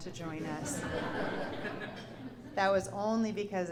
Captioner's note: laughter